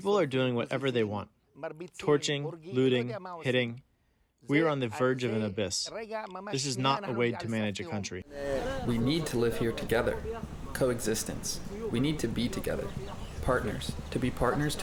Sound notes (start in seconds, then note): 8.2 through translator